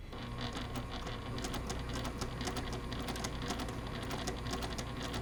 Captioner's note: sewing machine churning